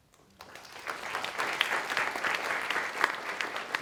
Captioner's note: applause